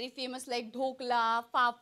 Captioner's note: speaking foreign language